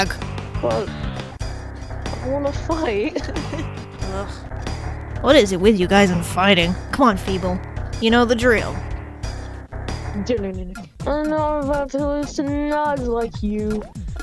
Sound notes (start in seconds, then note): 2.9 laugh; 4.3 sighs